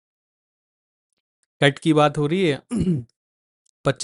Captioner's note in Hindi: गला साफ़ करने की आवाज़